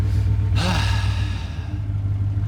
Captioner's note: sighs